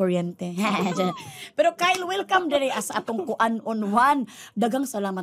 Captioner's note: chuckles; laughing